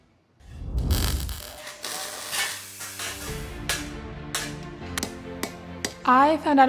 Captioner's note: clanging metal